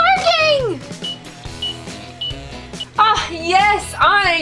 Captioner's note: timer beeps